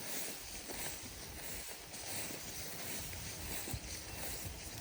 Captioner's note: grass rustling